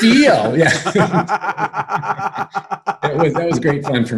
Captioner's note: both laugh